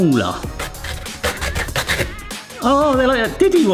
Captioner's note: pear scraping